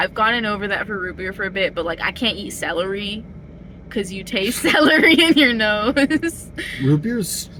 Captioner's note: laughing